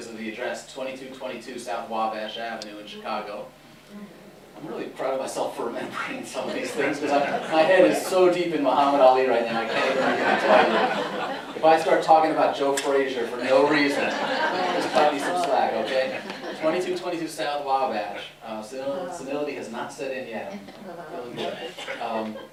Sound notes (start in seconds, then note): 9.6 laughter; 13.6 laughter